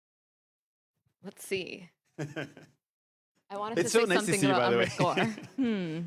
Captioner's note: laughter